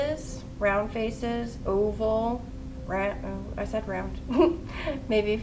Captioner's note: giggles